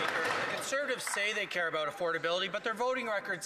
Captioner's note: some Applause